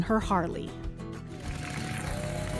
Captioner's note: cheers and applause